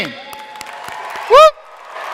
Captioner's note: crowd applauding; crowd cheering